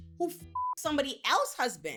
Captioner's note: beep